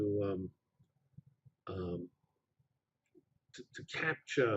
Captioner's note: pause